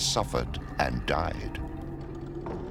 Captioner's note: door rattles